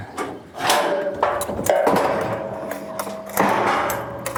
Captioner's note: metal clanking